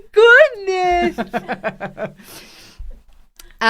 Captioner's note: laughs